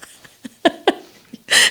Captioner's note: laughs